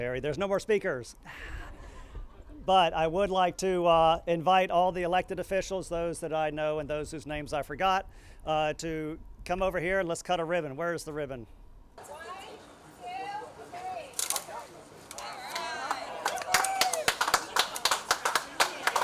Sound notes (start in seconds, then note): 15.4 audience clapping